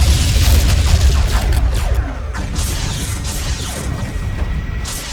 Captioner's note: explosion booms; cannons blasting